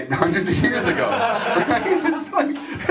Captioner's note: laughter